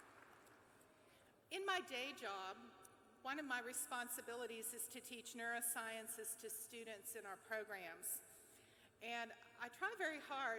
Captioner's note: applause